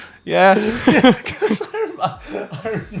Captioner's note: laughing; chuckles